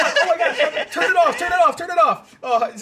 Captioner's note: laughing